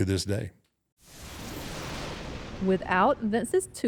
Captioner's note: thunder rumbles